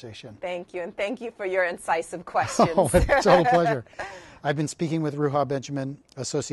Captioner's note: laughs